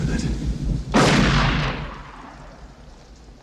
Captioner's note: gunshot